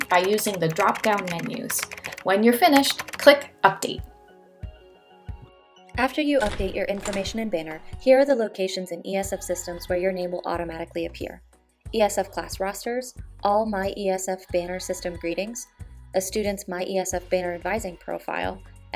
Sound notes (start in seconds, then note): 3.9 keyboard keys clacking; 6.4 door open sound